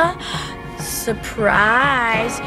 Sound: inhales

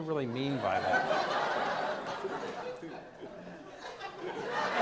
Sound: audience laughs

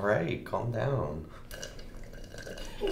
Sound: Jesse slurps

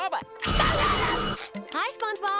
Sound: screaming

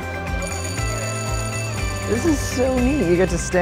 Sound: bell ringing

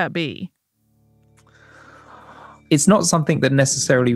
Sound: inhales

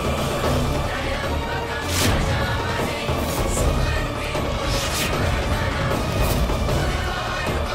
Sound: chant

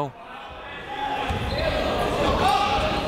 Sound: chatter

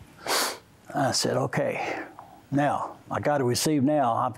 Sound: sniffs

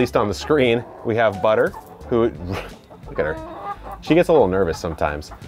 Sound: chuckles

